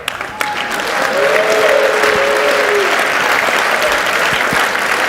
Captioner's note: audience cheers and applauds